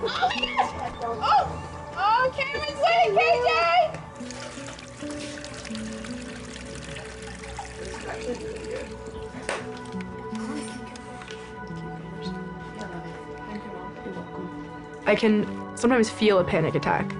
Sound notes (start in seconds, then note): 7.3 tap running; 11.9 indistinct chatter